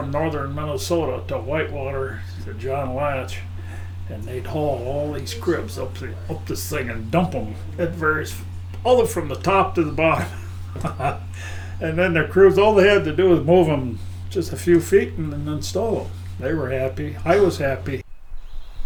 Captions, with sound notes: northern Minnesota, to Whitewater, to John Latsch, and they’d haul all these cribs up this thing and dump them at various—ALL the way from the top to the bottom. [chuckling] And then the crews all’s they had to do is move them just a few feet and then install them. They were happy. I was happy.